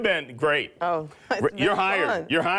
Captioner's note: laughs